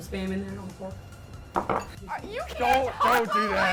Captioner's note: plate clatters; laughs